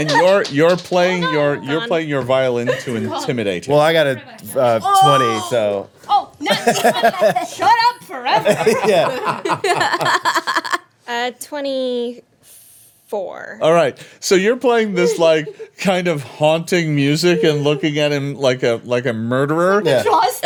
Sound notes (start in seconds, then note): 6.4 laughing